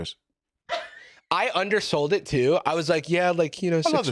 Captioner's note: laughs